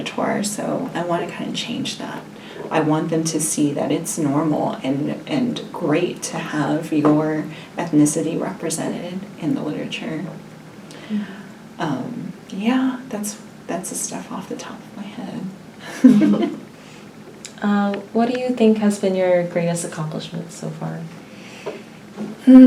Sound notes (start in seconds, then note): 15.8 all chuckle